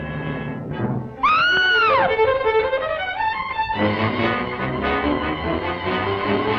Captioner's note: frantic music; screams